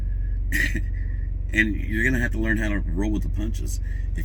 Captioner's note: chuckles